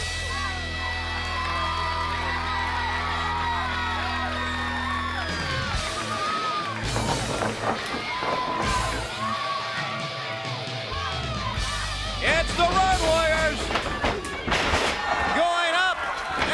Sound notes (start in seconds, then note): 3.7 crowd cheering; 4.4 crowd chatter